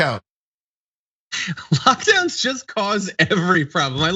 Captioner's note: laugh